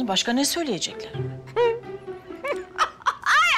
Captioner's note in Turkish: Gülüyor